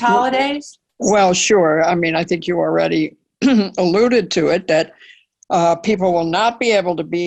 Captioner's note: cough